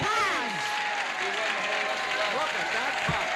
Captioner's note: cheers and applause